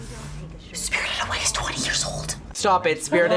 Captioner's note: whispers